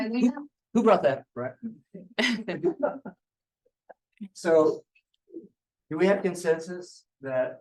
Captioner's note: laughter